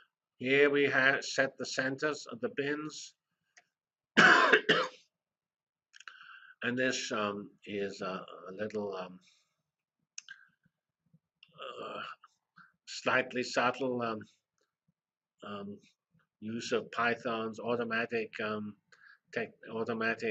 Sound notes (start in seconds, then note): 4.1 cough